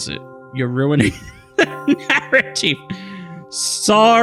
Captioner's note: laughs